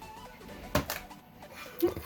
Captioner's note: thump